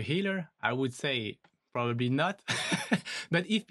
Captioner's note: laughs